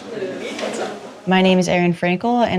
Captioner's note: general chatter